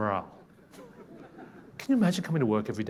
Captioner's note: people laughing